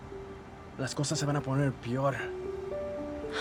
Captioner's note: speaking spanish